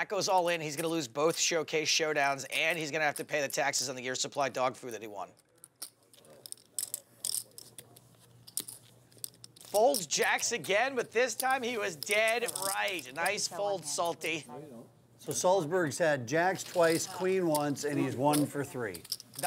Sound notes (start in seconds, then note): 6.1 chips clattering